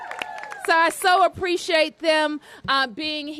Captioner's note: applause